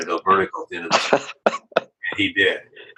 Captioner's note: laughs